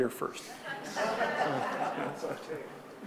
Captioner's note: audience laughing